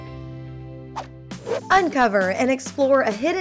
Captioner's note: whoosh